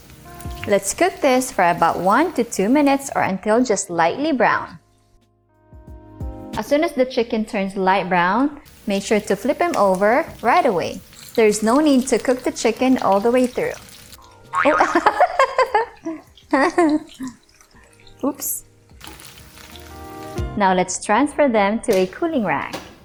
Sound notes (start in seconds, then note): 10.5 oil sizzling; 16.1 oil sizzling; 16.4 chuckling; 18.6 oil sizzling